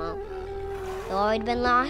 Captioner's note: deer bellows